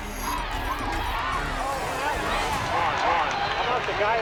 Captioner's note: crowd screaming